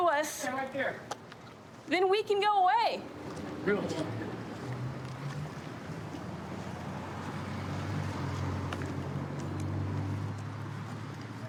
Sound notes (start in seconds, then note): 6.5 vehicles driving